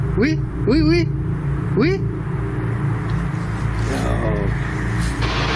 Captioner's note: speaking in foreign language